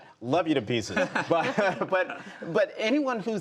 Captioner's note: laughter